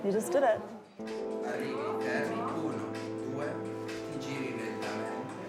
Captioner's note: indistinct chatter, upbeat music plays softly